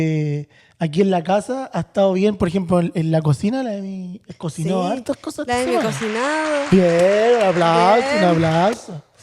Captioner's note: applause